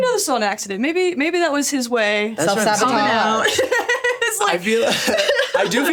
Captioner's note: laughs